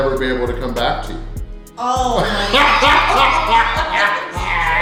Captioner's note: haha